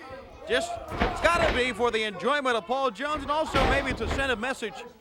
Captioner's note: crowd chatter